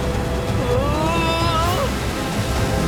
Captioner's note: groaning